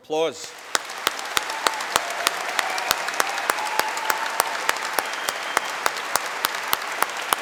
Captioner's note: cheering and applause